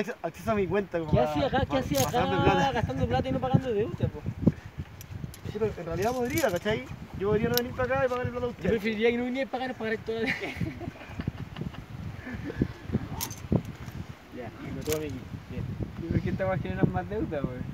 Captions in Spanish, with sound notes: Uds deberian tener acceso a mi cuenta, como pa que ... -Qué hacís acá! Qué hacís acá gastando plata y no pagando deudas! En realidad podría cachai, yo podría no venir pa acá y pagarle la plata a uds Yo preferiría que no vinieray pa acá y nos pagaray a todos (risas) Ya, tengo todo mi equipo Siempre estas hueás generan más deuda hueón